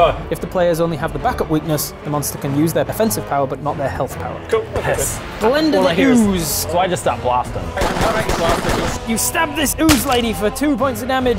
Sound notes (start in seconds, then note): 7.7 pew pew pew pew pew